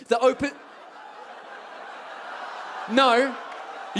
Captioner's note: audience whoops and laughs